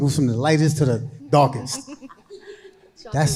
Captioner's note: panelists laughing